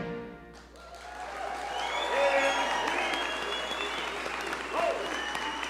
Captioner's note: audience cheer and applaud